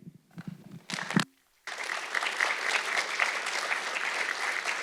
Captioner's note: audience clapping